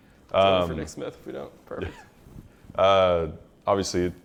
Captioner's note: laughs